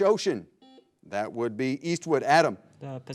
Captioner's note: buzzer blares